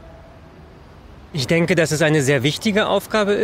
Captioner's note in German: männliche Stimme